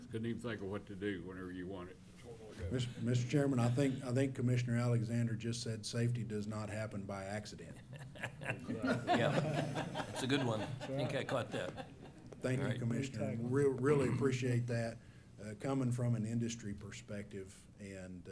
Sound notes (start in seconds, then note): 7.6 laughter; 7.7 laughs